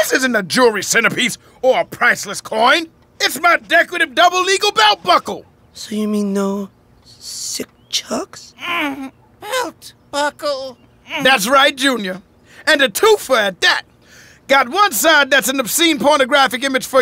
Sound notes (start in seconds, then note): 8.5 groans; 8.6 grunts